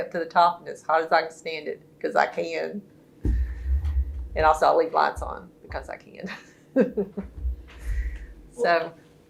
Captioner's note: laughs